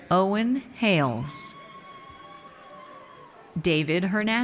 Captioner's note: audience cheers